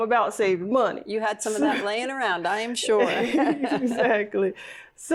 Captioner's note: laughs